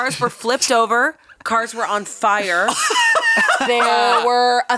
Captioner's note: laughing